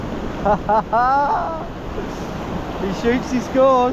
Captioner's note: laughing